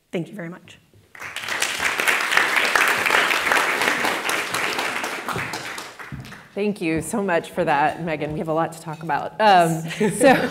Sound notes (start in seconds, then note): 1.1 applause; 9.7 laughing